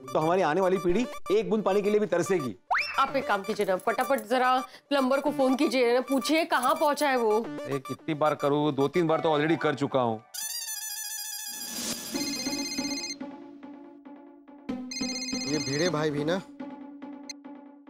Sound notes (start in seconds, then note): 10.4 phone ringing